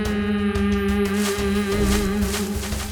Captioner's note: Jae hums